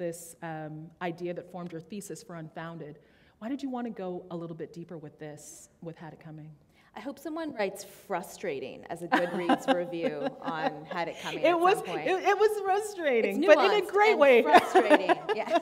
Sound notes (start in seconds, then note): 12.5 laughter